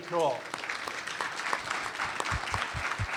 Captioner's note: applause